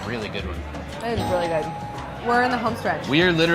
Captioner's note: bell dinging